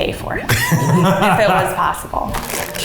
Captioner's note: laughs